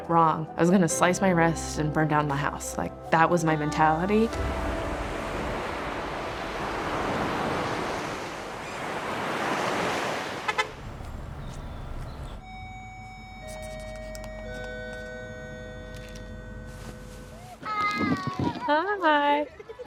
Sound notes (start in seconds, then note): 3.8 waves crashing; 4.7 car honking; 5.5 bell gently ringing